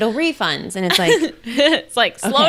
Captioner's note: laughs